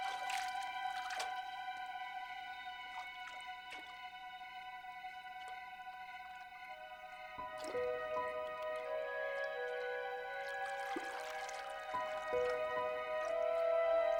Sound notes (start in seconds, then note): 0.3 water sloshing; 4.8 crickets chirping; 7.8 soft music